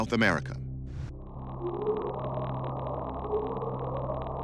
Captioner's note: faint bwoop